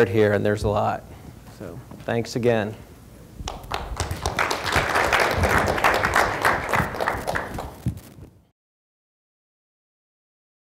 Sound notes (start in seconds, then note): 3.4 applause